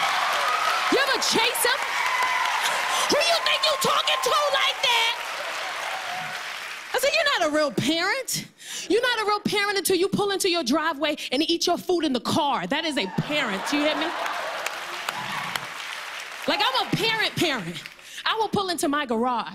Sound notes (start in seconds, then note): 0.0 cheers and applause; 4.9 applause